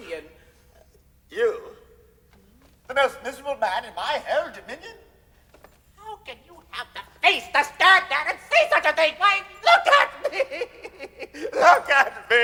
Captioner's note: weeps